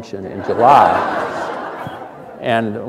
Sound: laughter

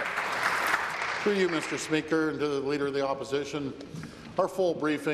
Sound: applause

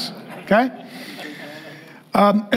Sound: congregation laughing

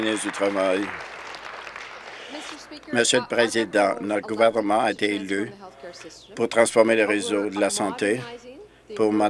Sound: applause

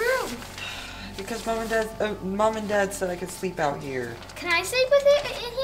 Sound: sighing

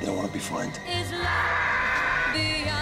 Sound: screams

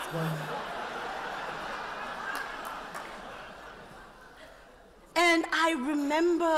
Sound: laughter

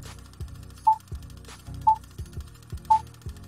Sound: beeping

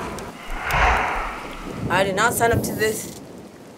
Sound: ominous whoosh; faint buzz

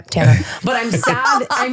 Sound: laughing

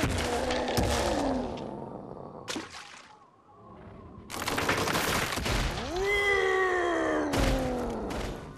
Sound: roaring

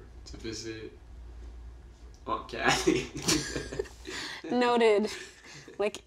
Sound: laughing

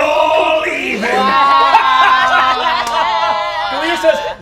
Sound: all laughing

